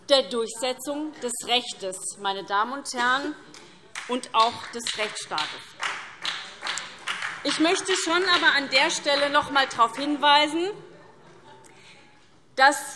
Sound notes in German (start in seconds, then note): 3.9 Beifall SPD